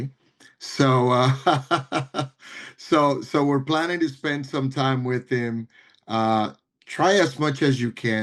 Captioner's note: laugh